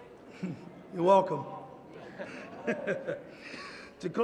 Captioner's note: laughter